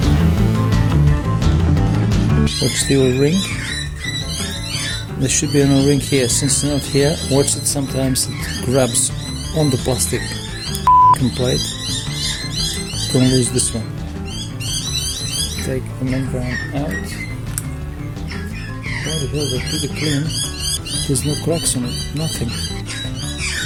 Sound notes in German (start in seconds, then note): 10.8 beep